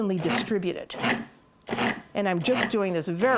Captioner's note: blender pulsating